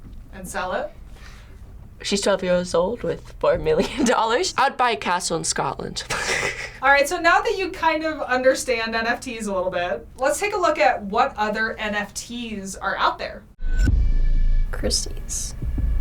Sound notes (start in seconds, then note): 6.1 snickers